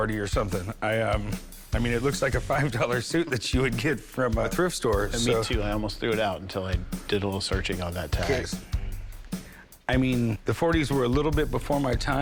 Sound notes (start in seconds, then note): 5.2 laughs